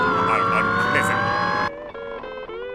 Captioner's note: Jake & BMO Scream At The Unknown